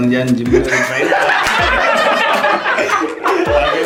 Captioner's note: suggestive laughs